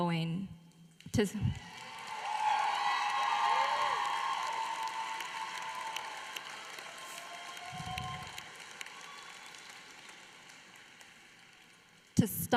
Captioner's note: applause